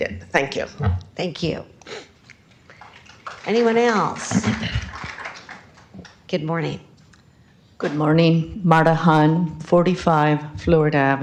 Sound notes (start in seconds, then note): 5.5 applause